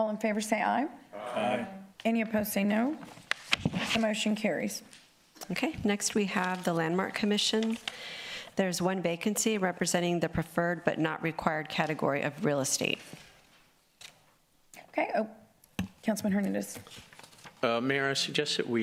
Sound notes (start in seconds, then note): 2.6 chorus of ayes